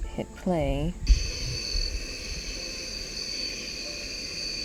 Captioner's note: crickets chirping